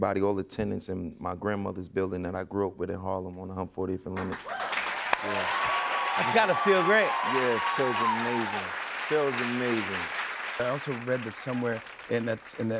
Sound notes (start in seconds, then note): 5.5 cheers and applause